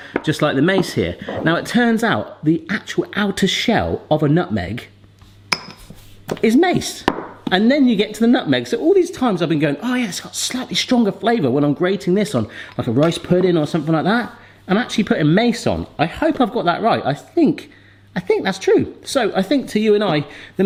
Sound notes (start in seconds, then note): 5.5 nutmeg clanking; 6.9 jar banging